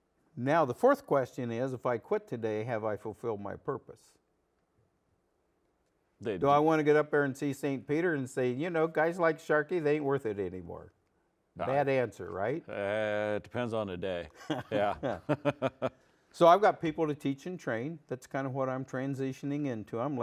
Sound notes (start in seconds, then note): 14.3 laughs